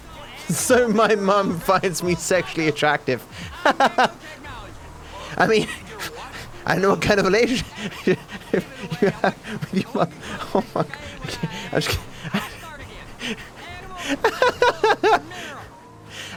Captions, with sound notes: "So my mom finds me sexually attractive." [laughs] I mean, I don't know what kind of a relationship… [wheezing] …you have with your mother. Oh my God. I can't-- I just can't-- I… [laughing]